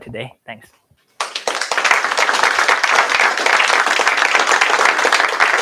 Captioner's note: applause